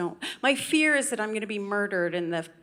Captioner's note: none